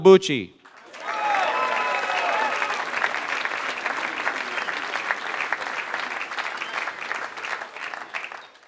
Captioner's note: applause